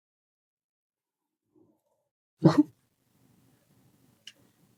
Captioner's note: laughing